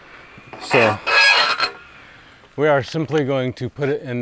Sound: flag pole clanks

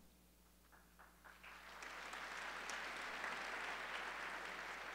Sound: audience applauding

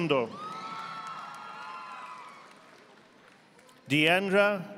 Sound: audience applauding

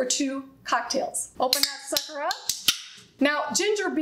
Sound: can opens

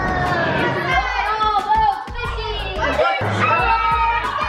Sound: kids cheering excitedly

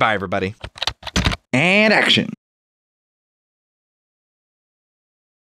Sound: typing

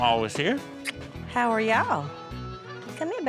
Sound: smooch

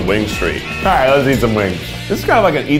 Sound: car horn honks

